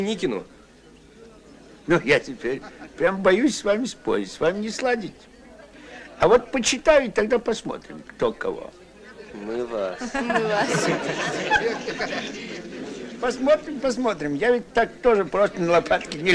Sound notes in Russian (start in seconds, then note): 10.0 смех